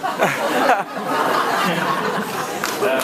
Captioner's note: laughs